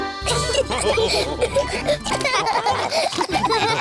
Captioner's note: all laugh